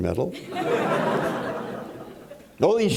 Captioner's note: laughter